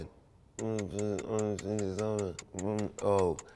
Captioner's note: humming